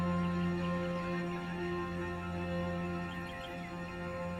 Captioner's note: birds chirping